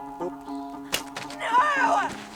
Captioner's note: computer dropping